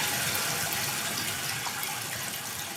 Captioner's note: water trickling continues